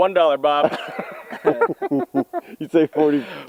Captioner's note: group laughs